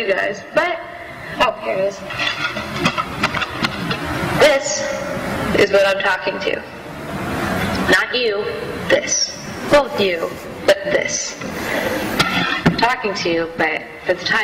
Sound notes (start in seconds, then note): none